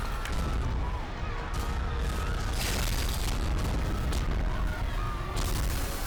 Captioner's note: explosion